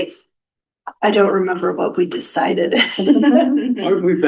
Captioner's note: laughter